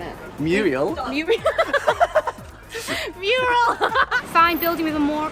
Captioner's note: laughing